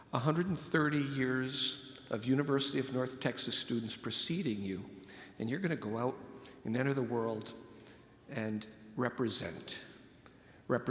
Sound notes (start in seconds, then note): none